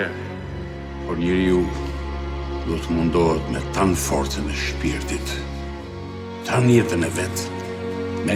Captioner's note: fr paul's voice